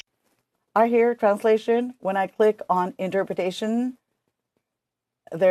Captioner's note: speaking French